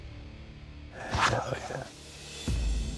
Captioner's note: whispers